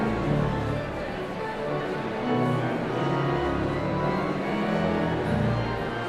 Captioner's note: audience chatter continues; sound of organ tuning